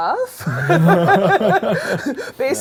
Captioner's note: laughter